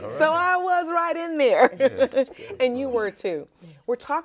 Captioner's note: laughs